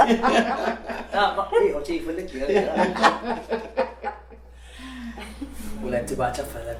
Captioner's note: laughing; laughing